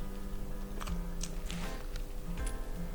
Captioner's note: eating